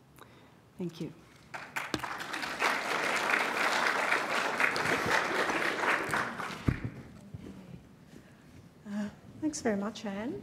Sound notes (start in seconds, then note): 1.4 applause